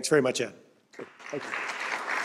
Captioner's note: applause